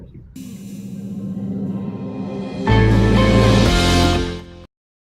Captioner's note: dramatic sound effect